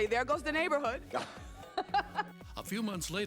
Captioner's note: laughing